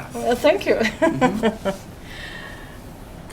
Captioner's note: laughs